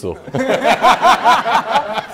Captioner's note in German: Gelächter